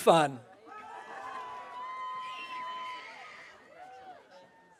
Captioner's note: audience cheering